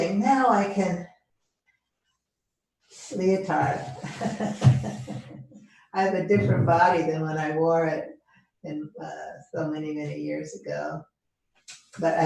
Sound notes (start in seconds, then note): 3.8 laughing